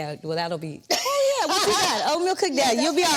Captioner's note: Vernee laughs